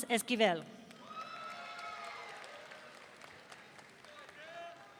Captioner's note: audience cheering